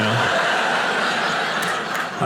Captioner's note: audience laughing